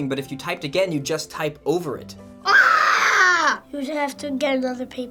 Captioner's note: screams